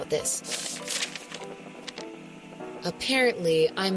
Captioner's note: paper shuffling